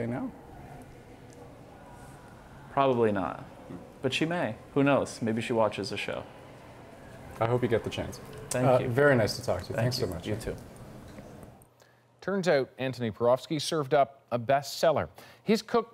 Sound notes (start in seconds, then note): none